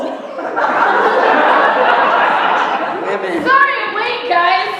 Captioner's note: laughter